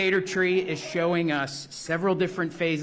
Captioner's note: laughter